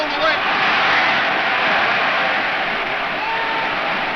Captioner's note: crowd cheers